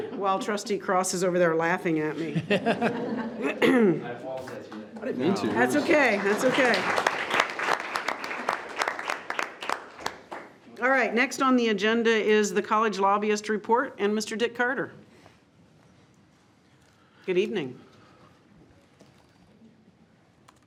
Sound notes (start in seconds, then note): 2.2 all laughs; 3.3 coughs; 7.2 all clapping